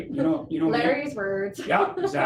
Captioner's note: laughing